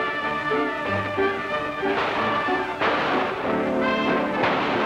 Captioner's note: guns firing